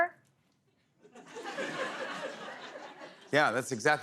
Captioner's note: laughter